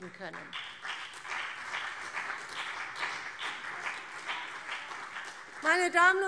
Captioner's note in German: Beifall CDU und BÜNDNIS 90/DIE GRÜNEN